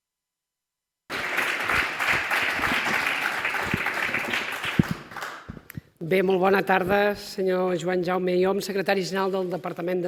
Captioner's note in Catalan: Aplaudiment